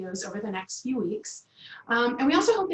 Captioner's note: Arabic; Vietnamese